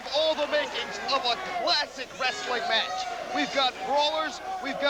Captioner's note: crowd cheering